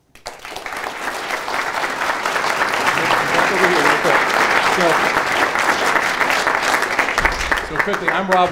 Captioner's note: applause